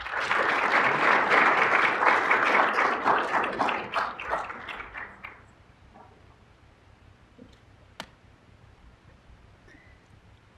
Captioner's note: applause